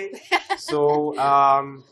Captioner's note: laughs